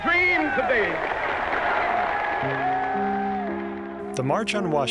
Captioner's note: applause/cheering